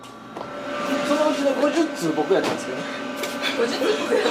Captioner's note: laughs